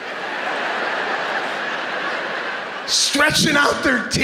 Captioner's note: laughter